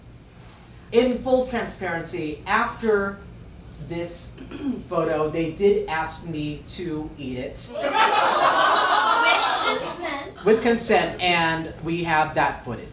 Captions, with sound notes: - In full transparency, after this photo, they did ask me to eat it. (audience groaning) - With consent. - With consent, and we have that footage.